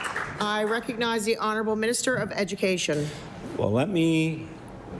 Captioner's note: applause